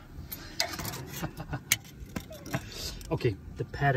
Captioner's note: laughs